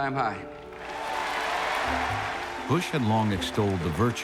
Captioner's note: applause